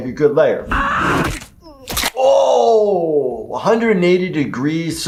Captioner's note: neck breaking